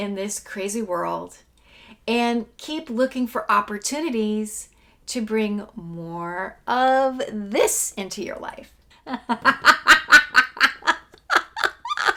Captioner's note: laughing